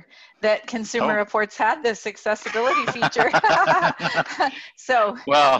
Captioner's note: laughter